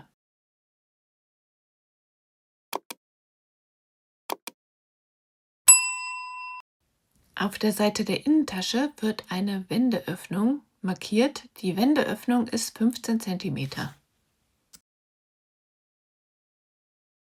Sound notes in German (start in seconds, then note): 5.6 glocke